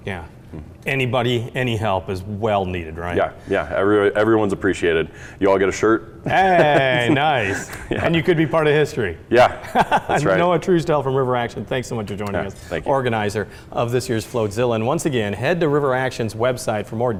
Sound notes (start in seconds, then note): 6.2 laughs; 9.4 laughs